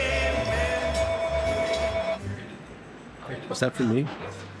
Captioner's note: telephone ringing